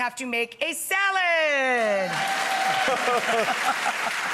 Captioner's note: cheers and applause; laughs